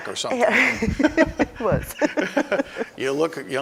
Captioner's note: laughing